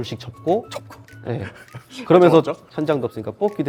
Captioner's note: laughing